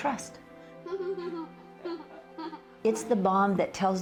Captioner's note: little Girl Laughing